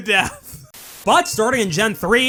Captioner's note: static